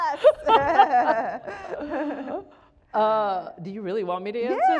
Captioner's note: both laughing